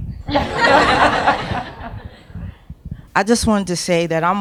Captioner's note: audience laughs